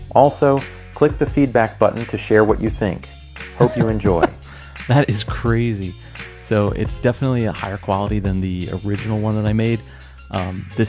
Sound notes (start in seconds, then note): 3.6 laughs